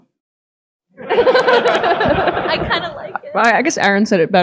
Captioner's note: audience laughing